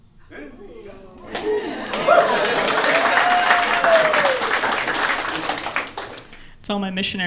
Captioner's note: woos